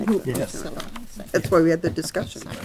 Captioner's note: board murmuring